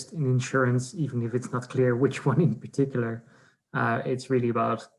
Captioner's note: laughs